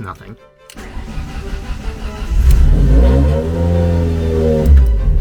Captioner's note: engine starting noise